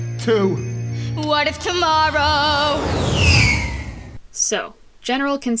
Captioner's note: whoosh